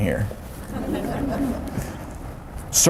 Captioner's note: audience laughter